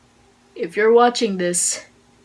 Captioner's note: none